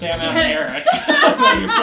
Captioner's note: laughing